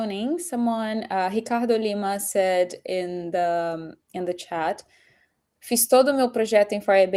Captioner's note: speaking portuguese